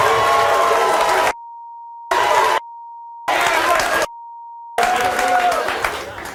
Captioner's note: audience cheering